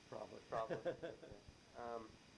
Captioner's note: laughs; chuckles